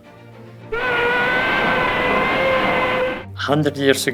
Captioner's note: steam whistle